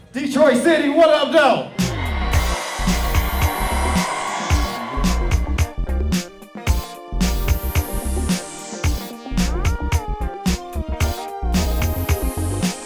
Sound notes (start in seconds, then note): 0.4 sax; 1.6 audience cheers